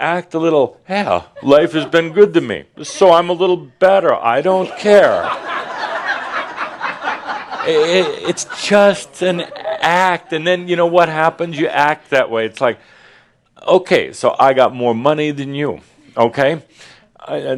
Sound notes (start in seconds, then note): 4.6 laughter